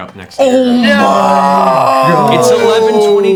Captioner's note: yelling